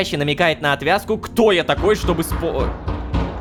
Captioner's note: knock on the door